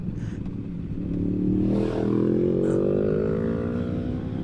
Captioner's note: engine revving